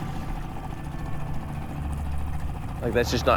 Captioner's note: engine chugging; somber synth music